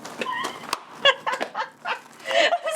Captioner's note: laughing